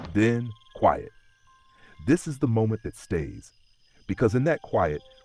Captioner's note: pause